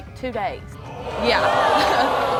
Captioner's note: hollering